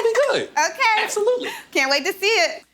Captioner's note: laughs